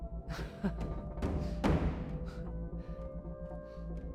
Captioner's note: Kristen laughs